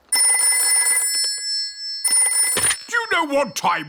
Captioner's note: dialing; rings